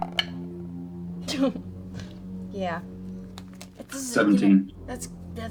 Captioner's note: laughs